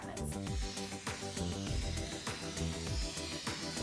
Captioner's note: tool scraping